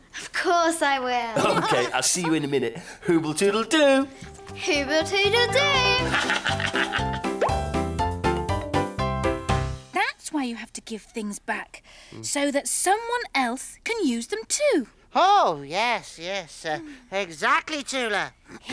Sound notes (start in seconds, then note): 6.0 laughter; 8.1 upbeat music